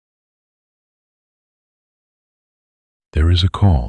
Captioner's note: soft voice